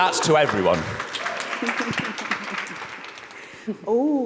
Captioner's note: audience applauds